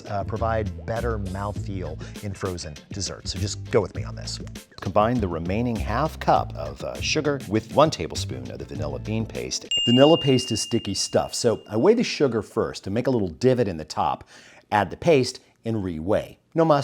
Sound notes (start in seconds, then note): 9.7 bell Ring SFX